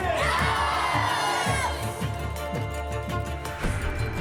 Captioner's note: kids shouting